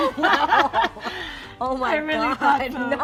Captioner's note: laughing